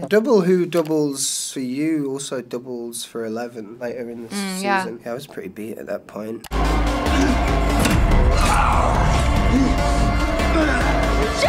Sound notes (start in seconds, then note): 8.3 Bruce growls; 9.3 Jonathan groans